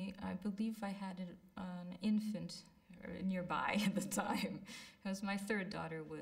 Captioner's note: laughs